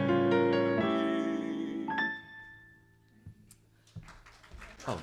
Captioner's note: applause